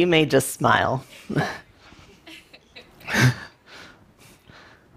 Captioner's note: laughter